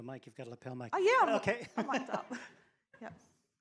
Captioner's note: laughs